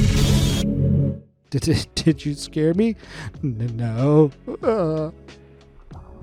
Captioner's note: sobs